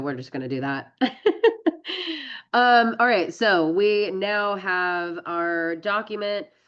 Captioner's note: laughs